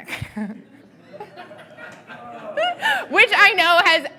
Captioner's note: laughing